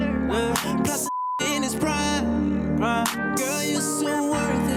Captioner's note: beep